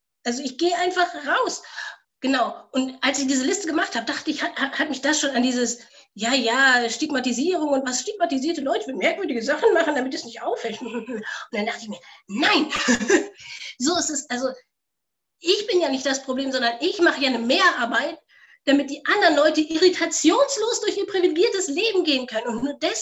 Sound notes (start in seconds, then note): 13.7 laughs